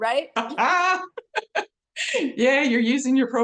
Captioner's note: laughs